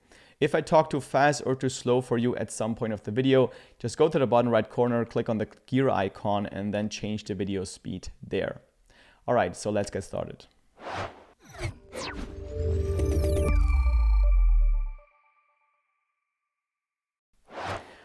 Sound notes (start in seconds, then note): 10.8 screen whooshes; 11.8 bright music; 17.4 screen whooshes